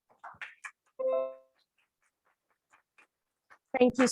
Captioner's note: applause